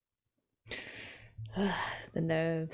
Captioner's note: sharp breath